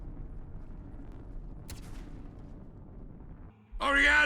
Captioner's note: bang